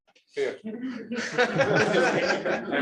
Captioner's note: laughter